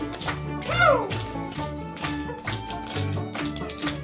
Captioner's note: performers shouting